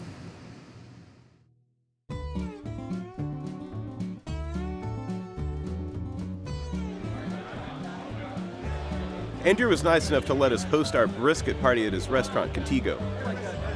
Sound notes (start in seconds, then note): 1.8 banjo music; 9.3 voiceover